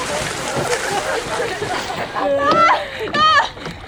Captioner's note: team laughing